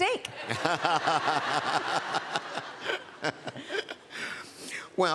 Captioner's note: laughter